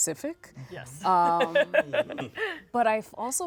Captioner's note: laughs